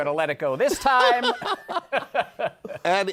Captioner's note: laughter